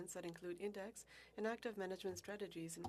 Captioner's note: speaking French